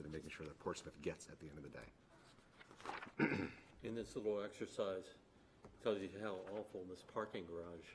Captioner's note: clears throat